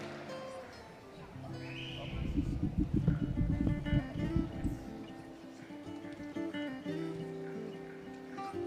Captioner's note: cheering and applause